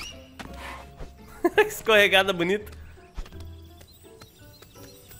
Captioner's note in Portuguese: risos